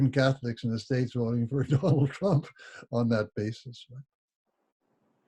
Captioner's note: laughs